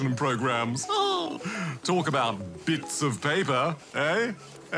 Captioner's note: chuckles